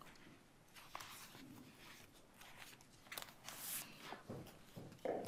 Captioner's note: papers rustling